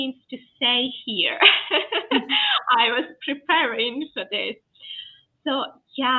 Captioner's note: laughs